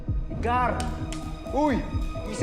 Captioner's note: slaps